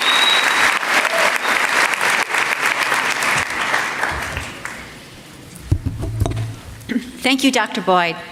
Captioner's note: applause